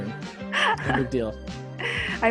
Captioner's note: laughs